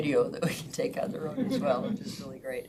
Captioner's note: members laughs